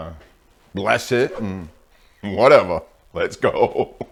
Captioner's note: laughing